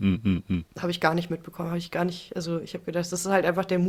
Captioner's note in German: räuspern